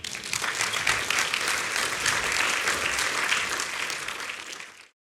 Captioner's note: applause